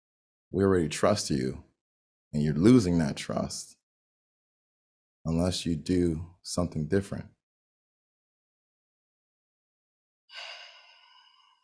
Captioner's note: deep exhale